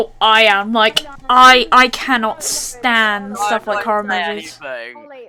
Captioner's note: meanwhile others are talking in the background